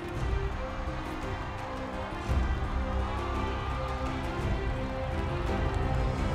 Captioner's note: applause